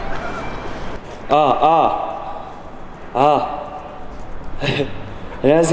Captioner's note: sound check